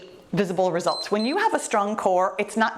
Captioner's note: timer beeps